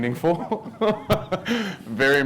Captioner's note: laughs